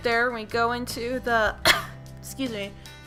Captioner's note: coughs